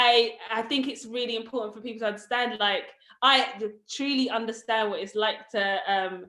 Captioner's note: none